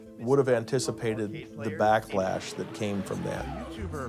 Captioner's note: explosion